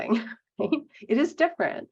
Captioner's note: laughing